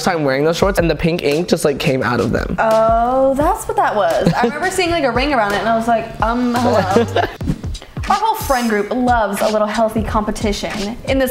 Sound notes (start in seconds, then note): 4.2 chuckles